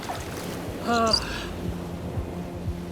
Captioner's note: gasps